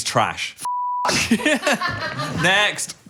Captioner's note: producer laughing